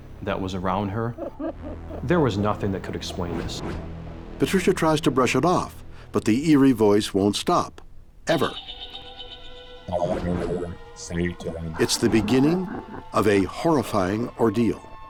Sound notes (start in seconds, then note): 8.5 slow eerie music; 10.5 deep Distorted Voice